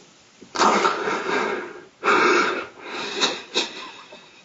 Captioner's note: crying